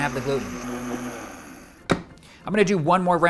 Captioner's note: blender whirring; lid popping